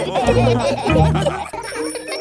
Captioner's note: all laughing